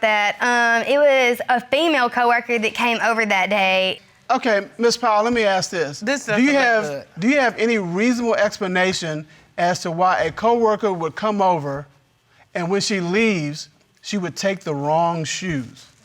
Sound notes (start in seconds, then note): none